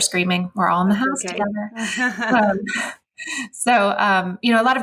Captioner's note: laughing